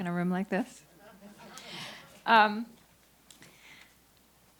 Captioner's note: audience chuckles